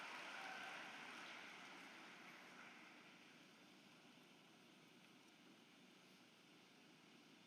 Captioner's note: applause